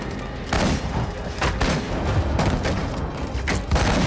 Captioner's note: gunshots continue